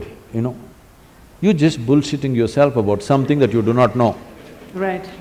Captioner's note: laughter